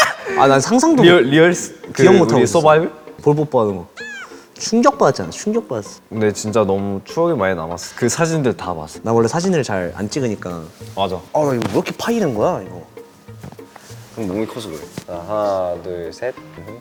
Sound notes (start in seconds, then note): 3.9 squeal